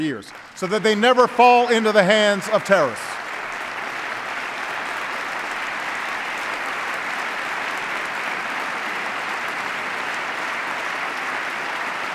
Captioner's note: applause